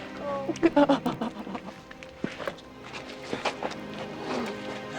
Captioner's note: crying; melancholy music